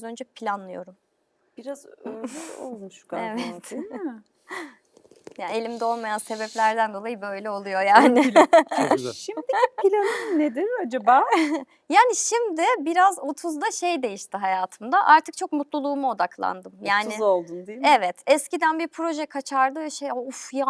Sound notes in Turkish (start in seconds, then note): 8.0 kahkaha